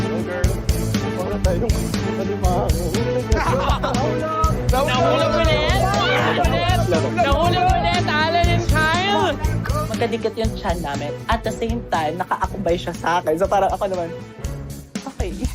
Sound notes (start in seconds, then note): 3.3 laughing